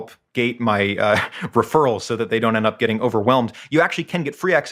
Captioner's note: laugh